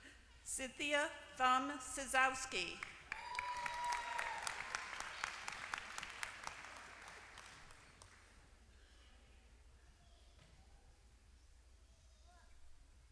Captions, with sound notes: Cynthia Thumm Cisowski. >> [APPLAUSE]